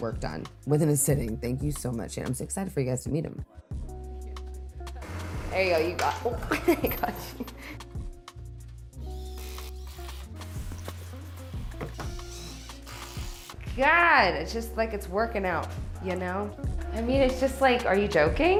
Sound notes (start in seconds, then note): 5.0 drill whirring; 9.0 driller whirring